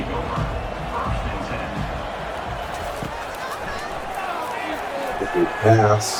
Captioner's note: crowd Noises